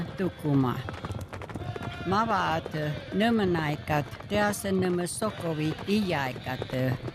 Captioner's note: in Native language; chanting, hooves pounding